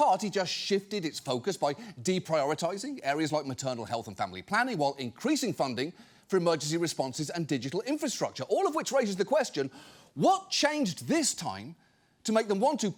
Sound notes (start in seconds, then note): none